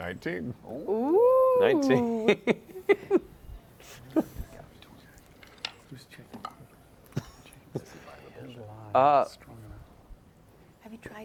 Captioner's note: laughs